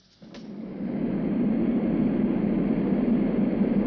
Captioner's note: airplane whirring